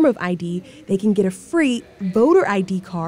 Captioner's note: people chattering distantly